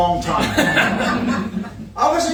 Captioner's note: participants laughing